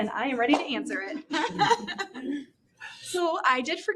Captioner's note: laughter